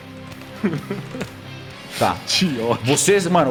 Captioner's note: laugh